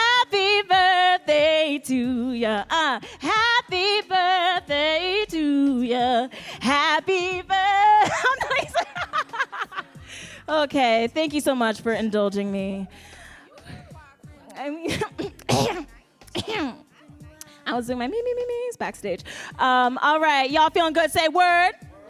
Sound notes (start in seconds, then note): 8.0 laughing; 14.9 clearing throat